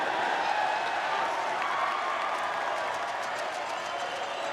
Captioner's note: loud cheering